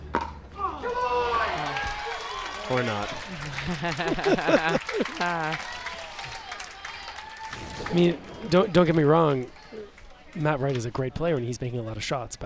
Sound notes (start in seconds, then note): 3.1 laughs